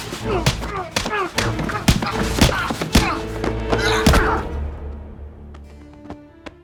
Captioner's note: objects clattering; thing thudding; hits thudding; killer groaning